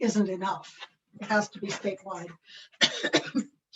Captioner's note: coughs